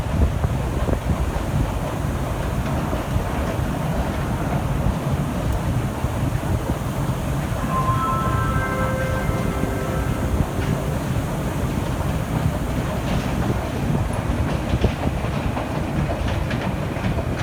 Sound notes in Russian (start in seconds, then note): 7.4 сигнал о прибытии поезда